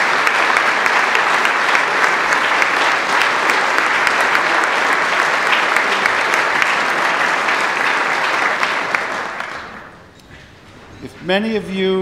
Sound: applause

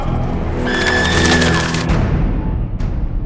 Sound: screams; laughing maniacally

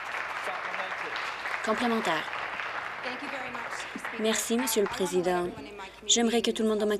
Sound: applause

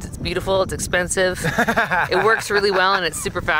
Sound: host laughs

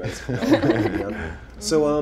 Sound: laughing drowns out speech

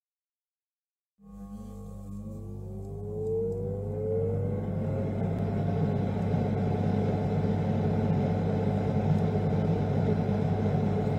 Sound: sound of stove

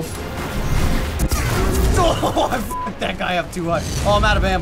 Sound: laughs

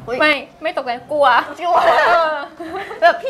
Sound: laughing

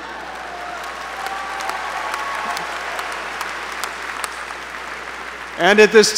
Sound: applause

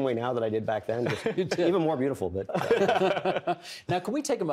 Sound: others laughing

